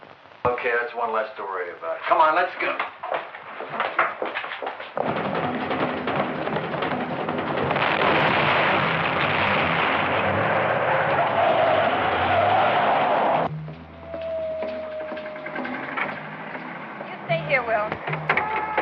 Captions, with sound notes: Okay, that's one less to worry about. Come on, let's go. [fast-paced action music] [explosion booming] [tires screeching] [mischievous funk music] You stay here, Wil.